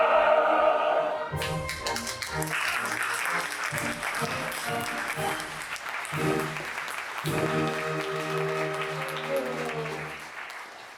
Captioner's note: music & applause